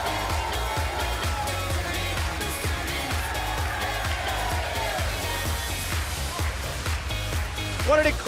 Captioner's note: cheers & applause